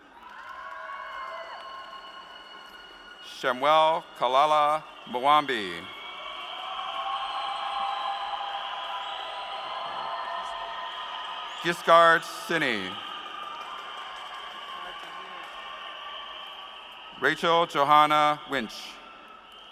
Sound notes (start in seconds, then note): 6.2 applause